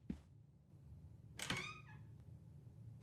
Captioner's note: door creaks